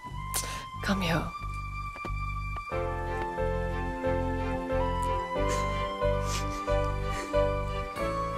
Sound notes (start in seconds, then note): 4.9 pecks